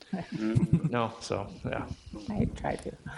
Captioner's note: people chuckling